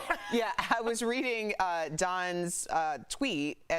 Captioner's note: laughter